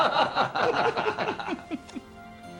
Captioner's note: <i> men laughing</i>